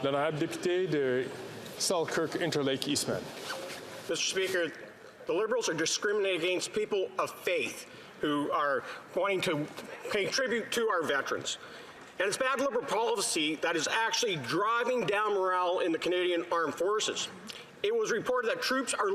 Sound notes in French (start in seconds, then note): 8.9 voix de l'interprète